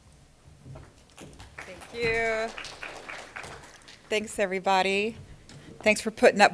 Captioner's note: applause